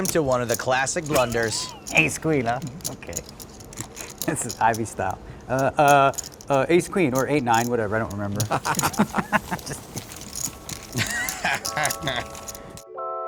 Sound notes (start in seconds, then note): 8.5 laughs